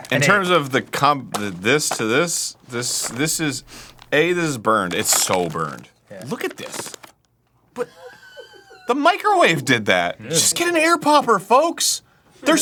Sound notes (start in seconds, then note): 7.7 off-camera wheeze laughing